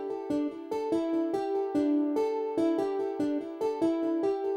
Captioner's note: none